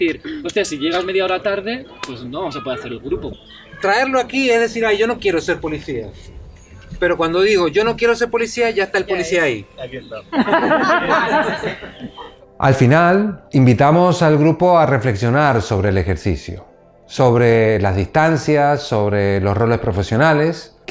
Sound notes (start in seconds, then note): 9.8 laughs